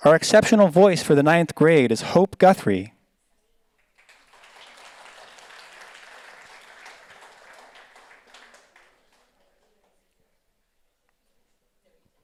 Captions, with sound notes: Our exceptional voice for the ninth grade is Hope Guthrie. (audience applauds)